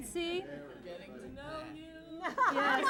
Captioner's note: chuckling